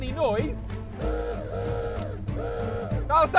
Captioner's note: horn sounds